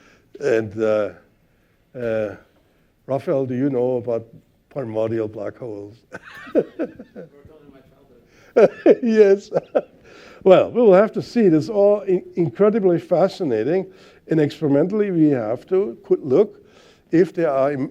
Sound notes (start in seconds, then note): 6.1 laughter